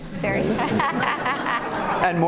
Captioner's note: laughter